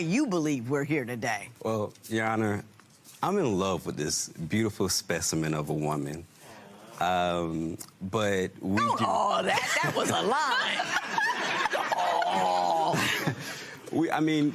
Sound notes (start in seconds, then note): 7.1 spectators "aww"; 9.6 laughter